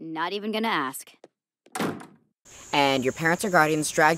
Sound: door slams

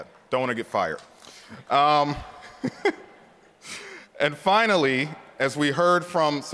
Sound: laughter

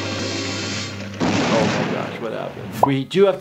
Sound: explosion heard

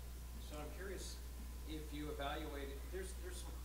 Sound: voiceover

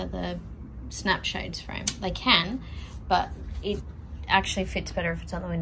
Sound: magnet clicks

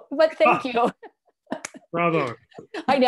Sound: laughter

